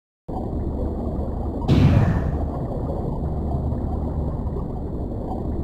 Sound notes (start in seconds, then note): 1.7 metal slamming; 1.8 water bubbling